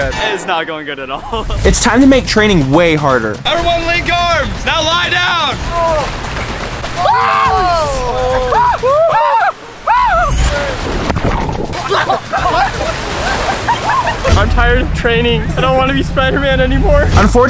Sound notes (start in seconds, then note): 7.0 shrieking; 10.4 waves crashing